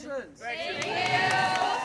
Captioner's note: crowd cheers